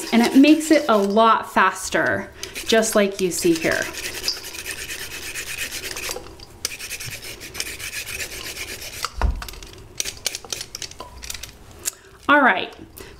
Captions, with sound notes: and it makes it a lot faster just like you see here. (chef peeling carrots) All right.